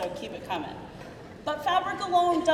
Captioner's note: crowd murmuring